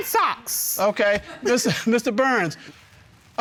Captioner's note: chuckles